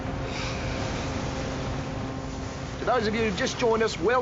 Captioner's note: boat horn blows